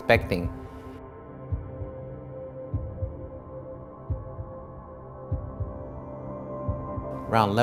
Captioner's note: heart beating